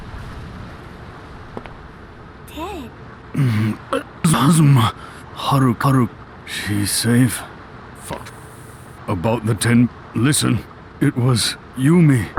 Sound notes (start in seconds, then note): 3.3 grunts